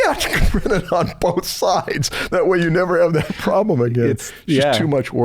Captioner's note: chuckles